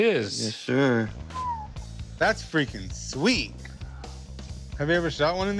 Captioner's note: whistles